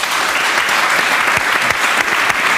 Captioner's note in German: Applaus